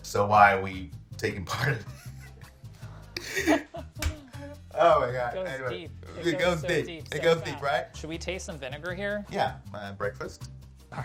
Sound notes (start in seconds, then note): 3.1 laughing; 3.1 both laughing